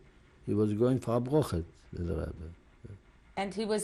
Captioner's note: non-english